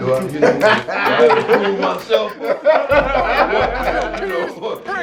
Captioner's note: group laughing